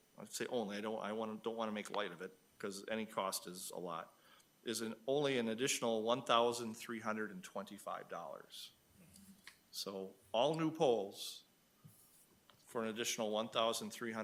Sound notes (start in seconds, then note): none